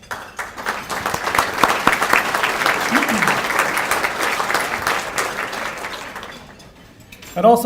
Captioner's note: applause